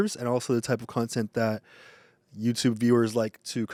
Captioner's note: none